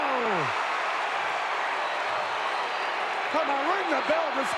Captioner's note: audience cheering